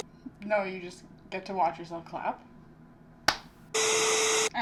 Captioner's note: tiny clap